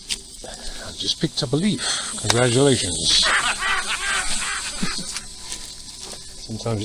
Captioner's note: laughter